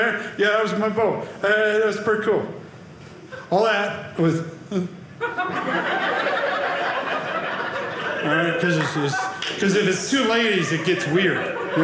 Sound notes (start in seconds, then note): 5.2 audience laughing